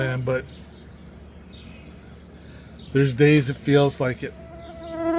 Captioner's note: mosquito buzzing